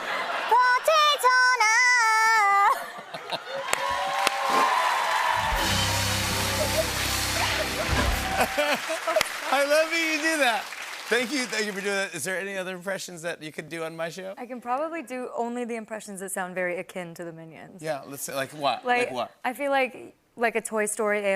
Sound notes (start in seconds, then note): 2.6 laughter; 3.2 cheers and applause